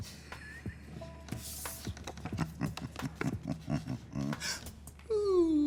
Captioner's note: chuckles